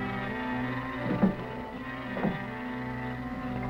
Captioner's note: furniture clanking; tense music